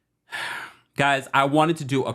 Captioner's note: sighs